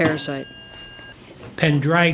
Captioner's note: ding